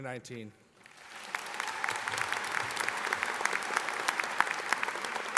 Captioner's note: audience applauding